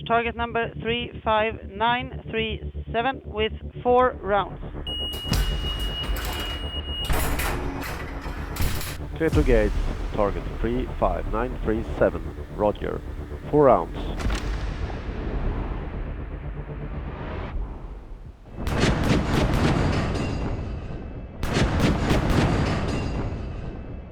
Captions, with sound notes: target number 35937 with four rounds. (high pitched whine blares) (intense music continues) (mechanism clangs) - Clear to engage target 35937, Roger, four rounds. (intense music continues) (cannon booms) (cannon booms)